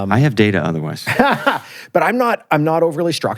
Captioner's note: laughs